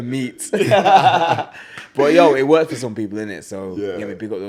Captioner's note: laughs